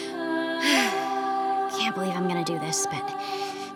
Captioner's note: soft music; sighs